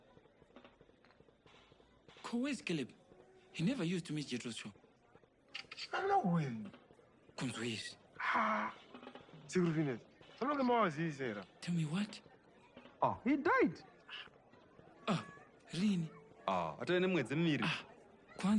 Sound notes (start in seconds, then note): 5.5 camera shutter